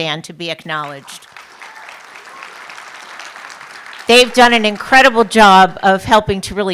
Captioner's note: applause